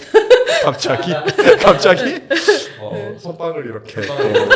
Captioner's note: ha ha